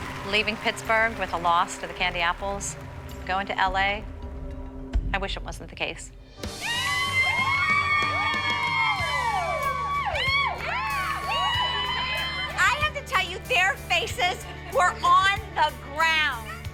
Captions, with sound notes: Leaving Pittsburgh with a loss to the Candy Apples, going to L.A. I wish it wasn't the case. ( cheering ) I have to tell you their faces were on the ground!